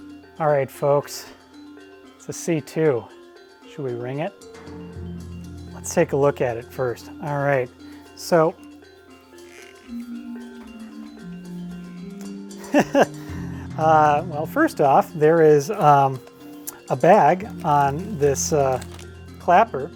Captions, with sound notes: All right, folks it's a C2. Should we ring it? Let's take a look at it first. All right. [LAUGHS] Well, first off there is a bag on this clapper.